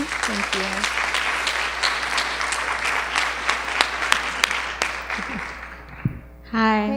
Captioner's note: applause